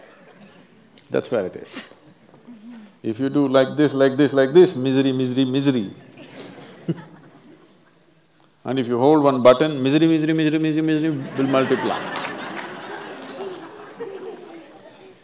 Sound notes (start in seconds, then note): 1.9 laughs; 6.1 laughs; 14.4 laughter